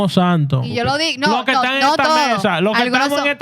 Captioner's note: speaking Spanish